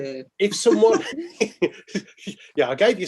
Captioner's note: laughing